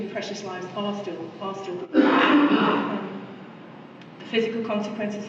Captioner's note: cough drowns out speaker